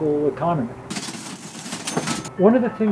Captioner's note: register clinks